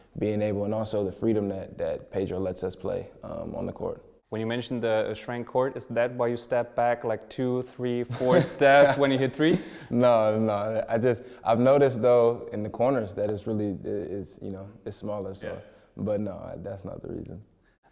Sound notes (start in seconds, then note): 8.1 lacht